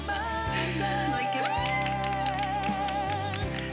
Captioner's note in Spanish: aplausos